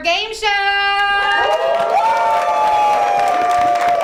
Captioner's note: cheering